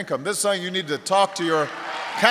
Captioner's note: applause